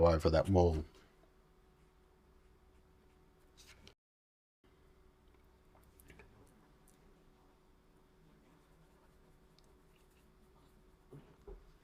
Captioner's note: silence